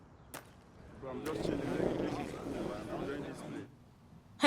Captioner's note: knights murmuring